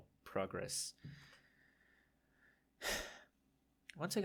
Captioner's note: sigh